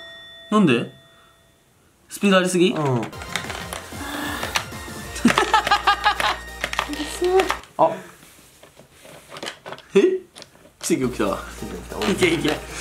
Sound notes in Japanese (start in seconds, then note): 3.8 ため息